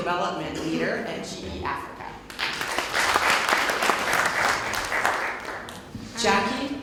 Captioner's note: applause